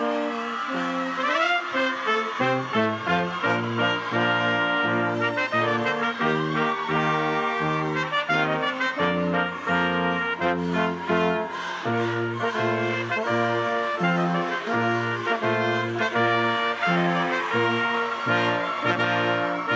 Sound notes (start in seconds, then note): 8.1 crowd cheering; 8.1 lively music continues